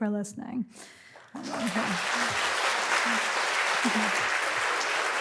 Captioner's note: applause